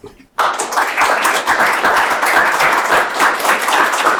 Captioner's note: audience applauding